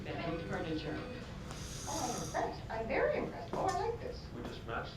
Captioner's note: TV Continues; snoring Softly